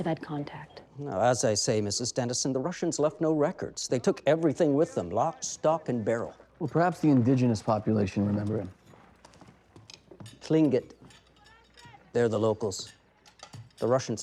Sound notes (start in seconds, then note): none